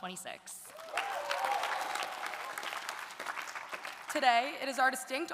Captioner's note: audience applauding; audience cheering